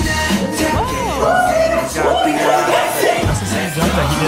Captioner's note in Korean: 환호